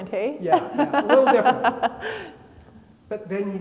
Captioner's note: laughing